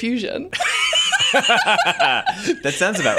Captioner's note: laughter